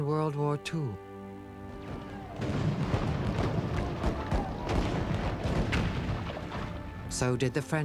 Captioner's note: popping Guns